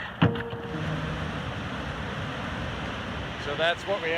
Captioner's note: water rushing